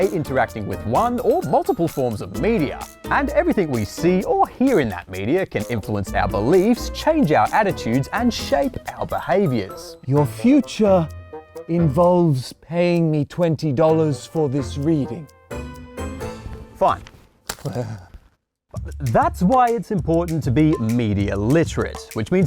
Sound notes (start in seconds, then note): 17.6 chuckles